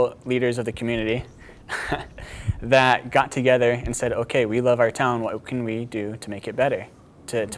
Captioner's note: chuckling